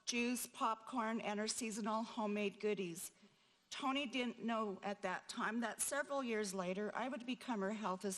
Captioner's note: none